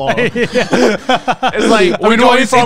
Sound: everyone laughs

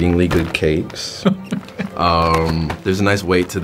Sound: Jake laughing

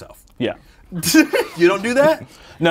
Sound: laughs

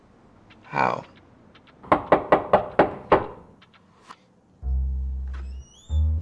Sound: knock on door

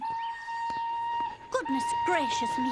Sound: train whistle blows

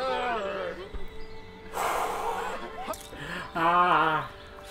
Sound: long sigh

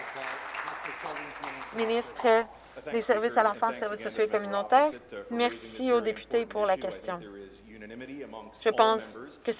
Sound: some Applause

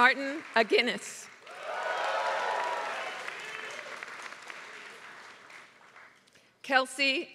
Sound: applause

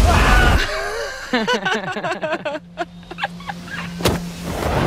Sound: laughter

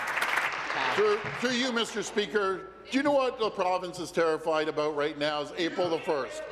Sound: applause

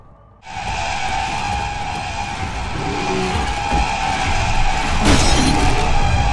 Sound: screechy siren; ferocious bashing

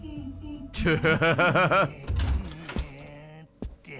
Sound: laughs

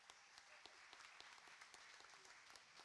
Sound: applauding

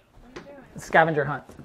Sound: child's Voice

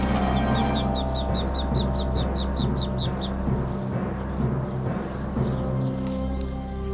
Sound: tense music; duck chirping

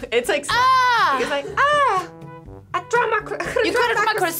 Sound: laughs

